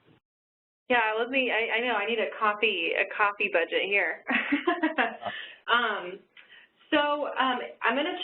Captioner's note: laughing